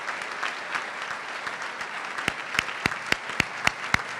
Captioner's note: applause